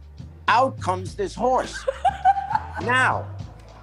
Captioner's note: laughs